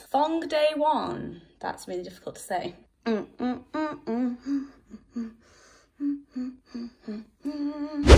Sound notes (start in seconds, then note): 2.9 hums a tune